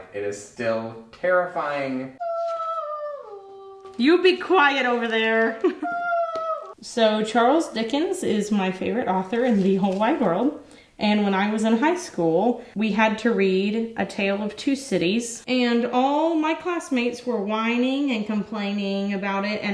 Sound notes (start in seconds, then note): 2.2 woman screams; 5.7 woman screams